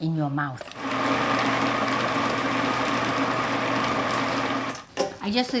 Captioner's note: food processor whirs